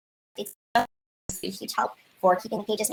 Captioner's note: distorted audio